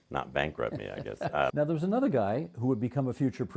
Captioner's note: chuckling